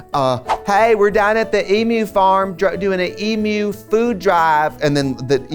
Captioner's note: southern accent